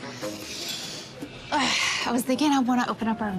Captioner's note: inhales, exhales deeply